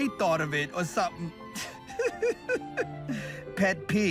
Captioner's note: laughs